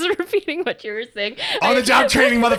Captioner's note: laughs